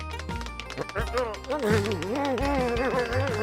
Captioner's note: grumbling